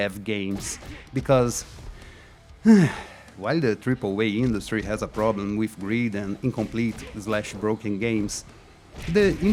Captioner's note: sigh